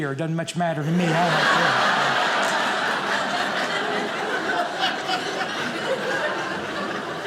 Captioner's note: audience laughing